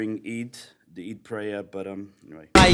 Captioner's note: non-english